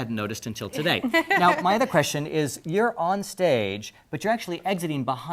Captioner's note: laugh